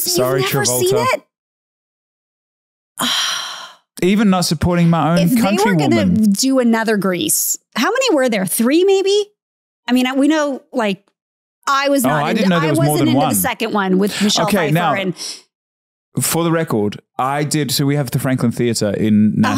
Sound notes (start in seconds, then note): 3.0 Candace sighs